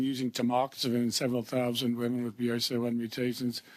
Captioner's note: speaking French